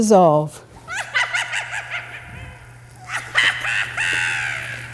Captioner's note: creepy witch laugh